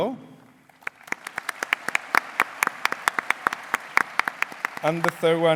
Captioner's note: applause